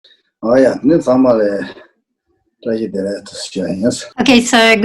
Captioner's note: speaks in foreign language